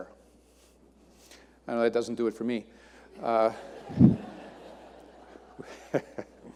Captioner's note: audience laughing